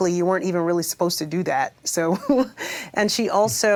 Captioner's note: chuckles